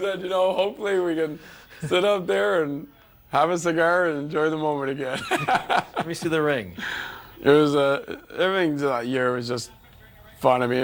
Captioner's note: laughter